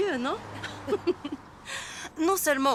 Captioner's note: chuckling